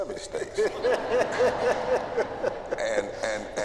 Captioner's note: laughter